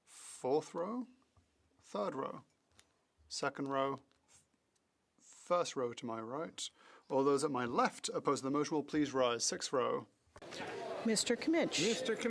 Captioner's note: calling of recorded vote